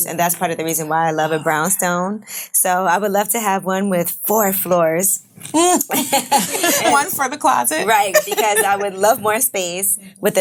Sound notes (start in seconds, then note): 5.6 ladies laughing